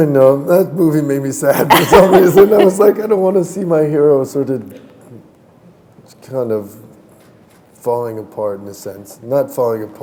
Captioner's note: chuckle